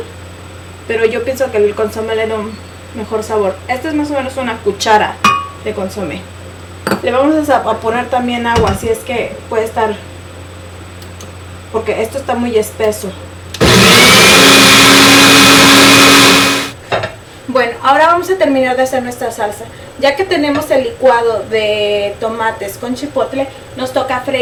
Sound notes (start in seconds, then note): 13.5 blender